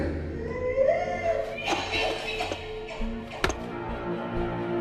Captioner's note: Susan crying; ominous music